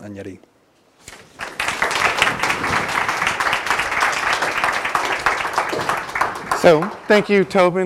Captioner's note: applause